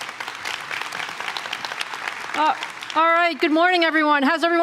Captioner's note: applause